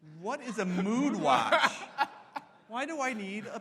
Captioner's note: laughs; audience laughs